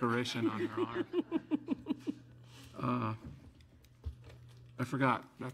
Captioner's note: group laughs